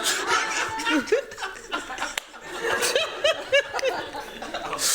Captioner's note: laughter